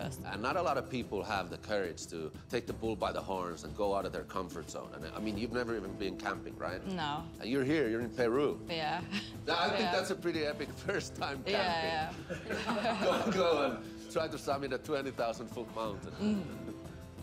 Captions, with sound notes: - Not a lot of people have the courage to take the bull by the horns and go out of their comfort zone. I mean, you've never even been camping, right? - No. - And you're here, you're in Peru. - Yeah. - I think that's a pretty epic first time camping. - Yeah. (laughing) - To go and try to summit a 20,000 foot mountain.